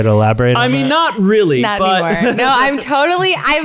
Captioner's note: laughs